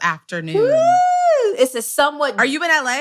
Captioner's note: cheer